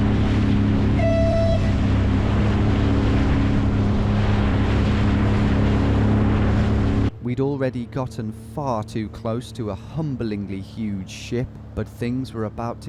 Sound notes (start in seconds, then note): 0.7 ski engine humming; 2.2 boat horn whistles